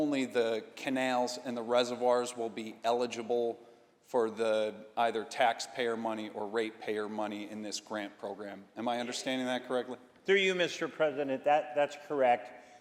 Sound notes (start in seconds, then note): none